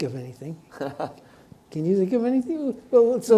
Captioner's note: chuckles